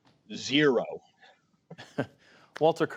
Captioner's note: laughter